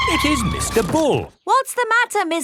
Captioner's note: tires screeching